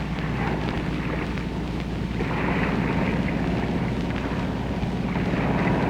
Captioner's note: airplane engine whirring